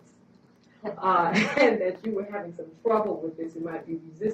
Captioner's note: laugh